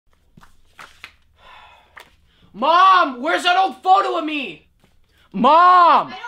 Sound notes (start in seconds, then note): 1.4 sighing